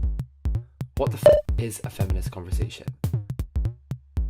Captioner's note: beep